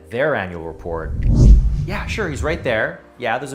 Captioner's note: air whooshing